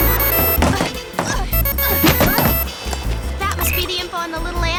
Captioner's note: ringtone